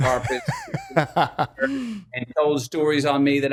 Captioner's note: laughs